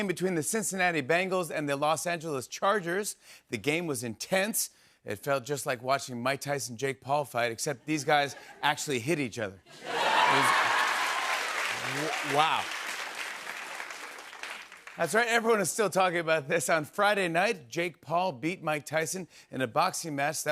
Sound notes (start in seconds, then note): 9.7 laughter and applause